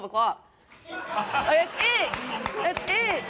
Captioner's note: laughs